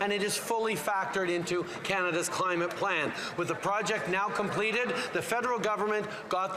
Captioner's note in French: voix de l'interprète